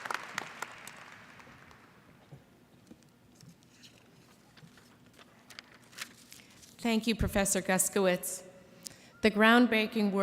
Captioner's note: applause